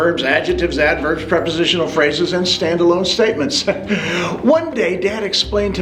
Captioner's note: laughs